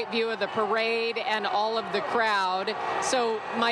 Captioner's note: applause